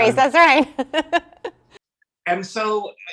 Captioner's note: laughs